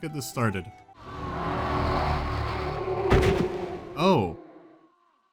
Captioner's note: distorted screaming